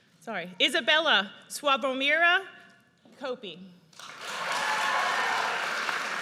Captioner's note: audience cheers